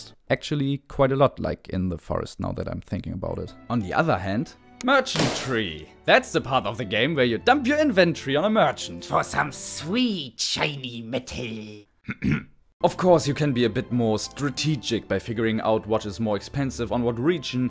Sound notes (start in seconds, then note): 12.0 clears throat again